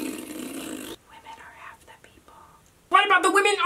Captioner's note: whispers